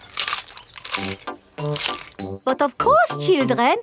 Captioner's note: munching